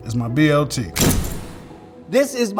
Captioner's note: video booming